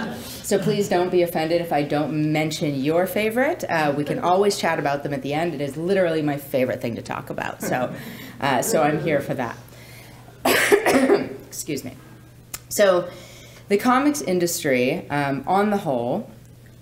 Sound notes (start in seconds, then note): 0.0 laughing; 10.3 coughs